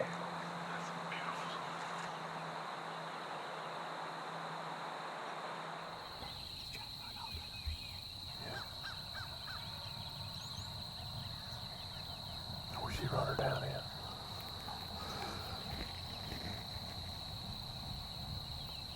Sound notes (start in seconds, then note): 8.4 crows caw; 8.9 insects chirp; 13.7 birds chirp; 13.7 insects chirp